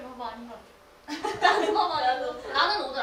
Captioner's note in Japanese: ハハハ